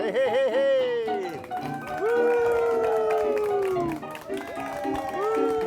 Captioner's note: crowd applauding